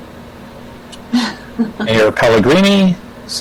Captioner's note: chuckles